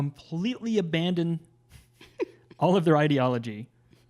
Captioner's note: laughs